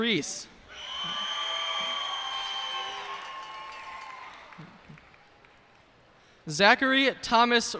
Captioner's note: cheers and applause